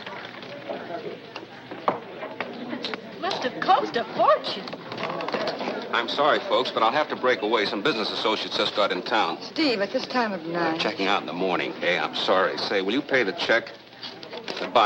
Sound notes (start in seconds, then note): none